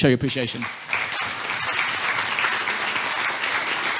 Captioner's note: audience clapping